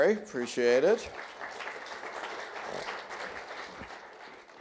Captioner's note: audience applauds